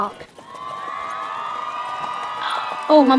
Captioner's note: applause